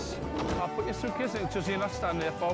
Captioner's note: door thuds